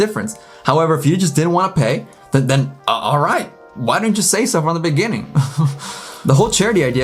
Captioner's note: laughs